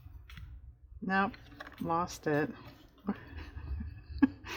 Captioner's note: laughs